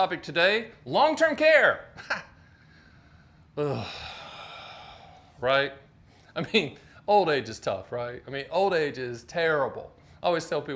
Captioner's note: sighs